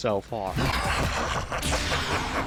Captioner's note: doom's eye laughter